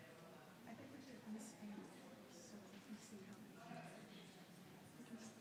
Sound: people chattering

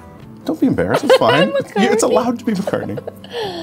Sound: laughs

